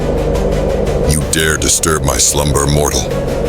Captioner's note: growling, voice like stone grinding against stone